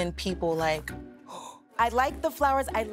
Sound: gasps

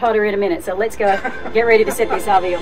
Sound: laughing

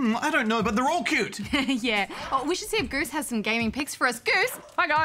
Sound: laughs

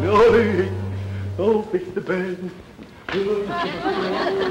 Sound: Clem mumbling; audience chuckling

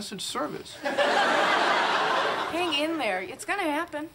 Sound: audience laughing

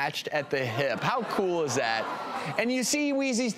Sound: audience laughs

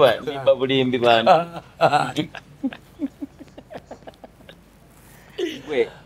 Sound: both laughing

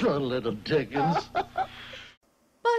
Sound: chuckles

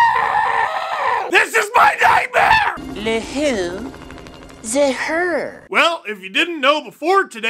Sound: screams loudly NO

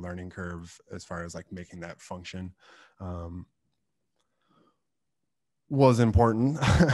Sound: laughs

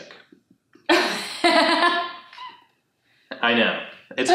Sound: laughs

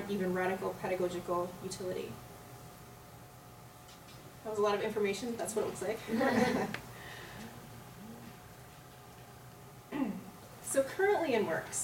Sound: laughter

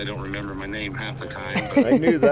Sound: Laci laughing

